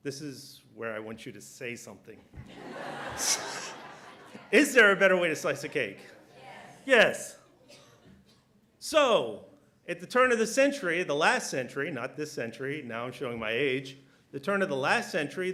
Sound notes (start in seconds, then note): 2.3 laughter